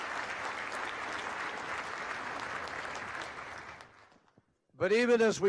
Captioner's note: applause